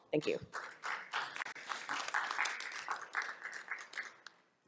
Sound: audience applause

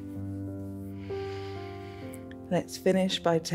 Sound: exhales

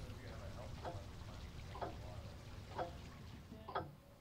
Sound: clock ticking

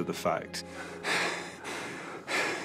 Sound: panting

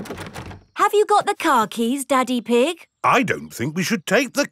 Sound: door rattles

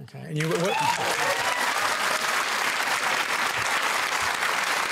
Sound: cheering and applause

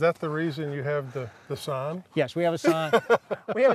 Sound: laughs

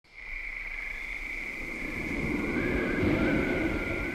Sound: crickets chirping; wind whistling

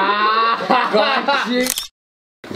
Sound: photo click

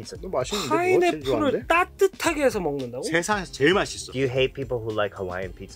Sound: speaking in Korean

